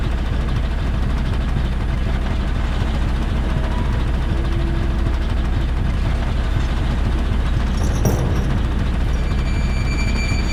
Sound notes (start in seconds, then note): none